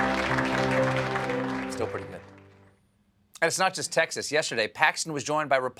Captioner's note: applause